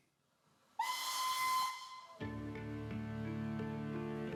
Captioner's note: whistle blows